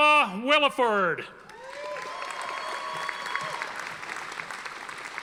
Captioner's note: audience applauding